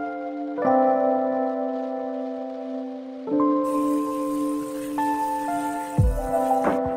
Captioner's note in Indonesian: suara air mendidih